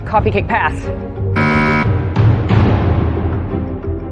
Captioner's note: buzzer sounds